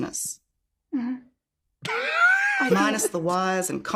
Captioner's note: laughs